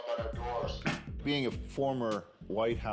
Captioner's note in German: lacht